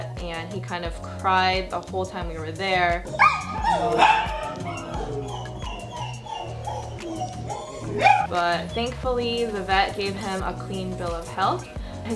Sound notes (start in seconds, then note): 3.0 dog whining